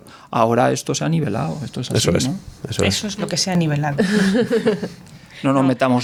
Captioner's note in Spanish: risas